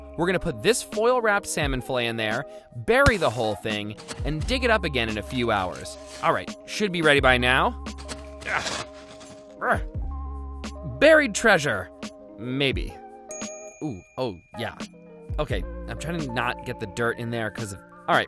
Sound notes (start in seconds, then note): 13.3 bell dings